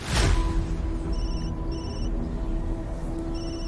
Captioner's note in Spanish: Suena el celular